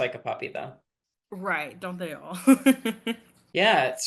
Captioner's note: laughs